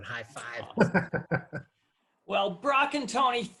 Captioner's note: laughs